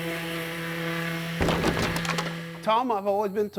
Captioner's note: wood falls and clunks